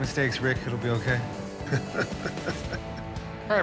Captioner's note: chuckling